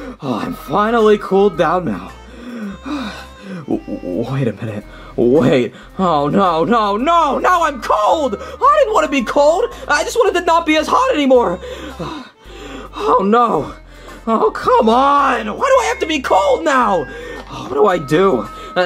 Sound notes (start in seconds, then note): 2.2 sighs; 11.5 pants